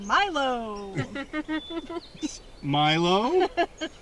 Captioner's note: all laughing